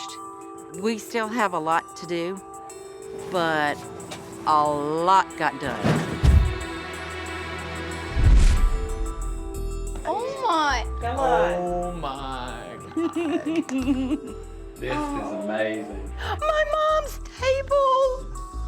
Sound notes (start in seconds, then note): 12.8 laughs